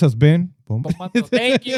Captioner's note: speaking In Foreign Language